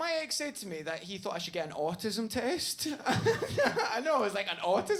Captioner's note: laughing